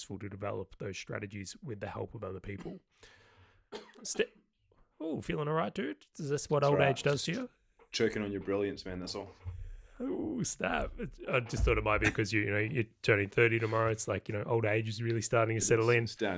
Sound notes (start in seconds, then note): 3.7 coughing; 11.8 laughing